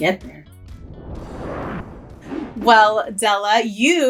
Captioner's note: logo Whooshes